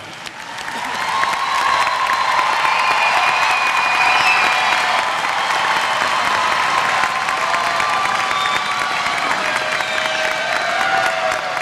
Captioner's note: applause